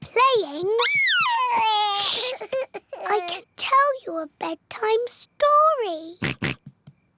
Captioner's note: cries; oinks